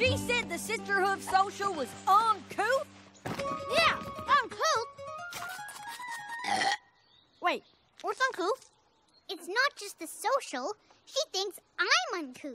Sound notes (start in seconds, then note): 7.5 slurp!